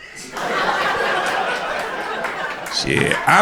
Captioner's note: crowd laughter